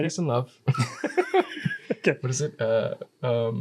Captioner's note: laughs